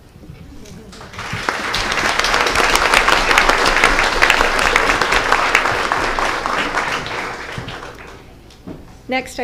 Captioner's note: applause